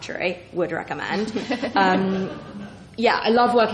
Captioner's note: laughs